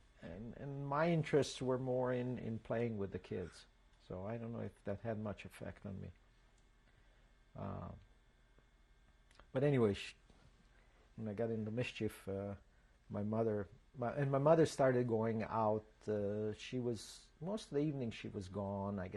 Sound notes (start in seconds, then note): 7.5 pauses for 3 seconds